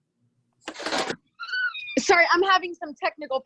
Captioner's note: clatters